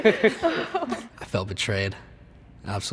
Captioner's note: students laughing